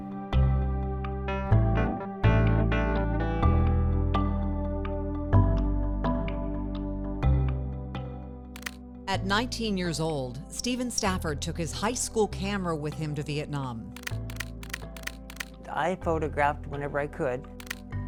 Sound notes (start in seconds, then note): 0.9 light music continues; 8.5 camera clicks; 13.9 camera clicking; 14.1 light music continues